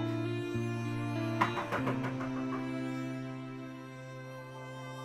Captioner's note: knocks on door